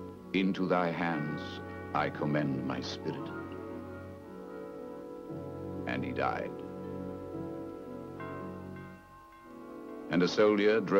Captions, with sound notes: And he died. (bell tolling) And a soldier drove a lance deep into his side